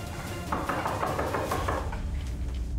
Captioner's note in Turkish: Kapıya vuruyor